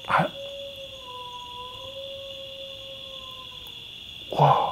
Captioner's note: coyote howling